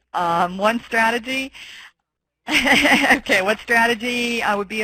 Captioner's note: laughing